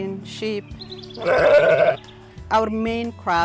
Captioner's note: sheep baa